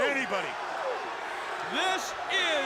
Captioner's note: crowd cheering